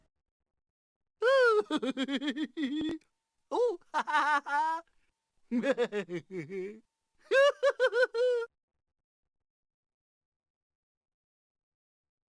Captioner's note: mr tickle chuckling